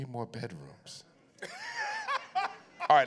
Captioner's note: laughs